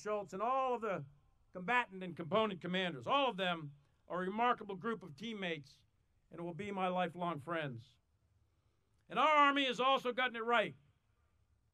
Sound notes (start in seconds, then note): none